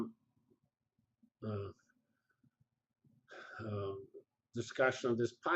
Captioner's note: pause